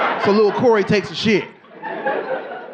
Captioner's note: audience laughing